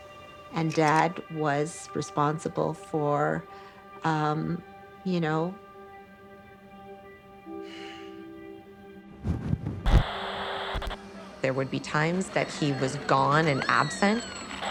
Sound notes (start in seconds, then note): 7.6 sighs; 9.2 static